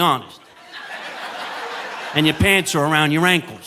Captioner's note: audience laughing